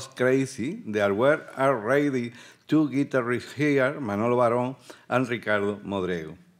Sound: speaking Spanish

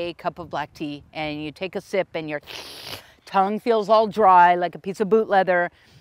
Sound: slurps

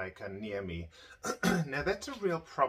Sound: clears throat

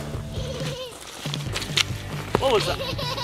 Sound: laughs softly

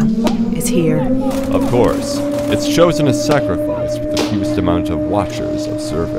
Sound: distant siren; automatic gunfire; distant siren

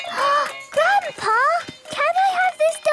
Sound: upbeat music; gasps

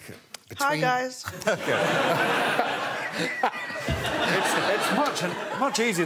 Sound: laughs

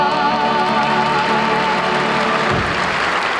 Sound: audience applauding

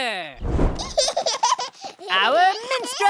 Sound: giggling

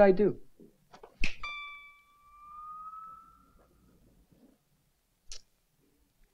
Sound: softly snaps; lightly chimes

